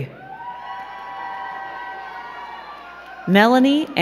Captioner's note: crowd cheering and clapping